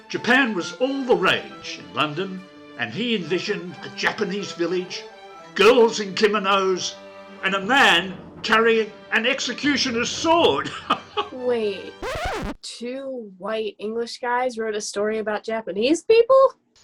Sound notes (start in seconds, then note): 10.6 chuckles; 11.8 record scratch